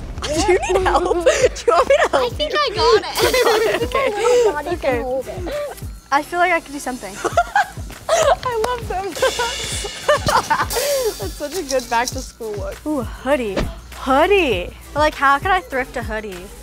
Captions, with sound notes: Do you need help? - Do you want me to help you? - I think I got it! OK, OK. I feel like I could do something. I love those! [laughing] That's such a good back to school look. Oh, hoodie... hoodie! But like how could I thrift a hoodie?